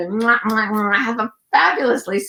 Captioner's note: lips kissing